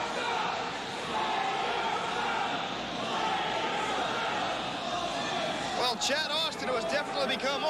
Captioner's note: fans chanting